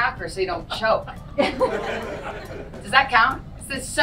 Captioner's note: audience laughs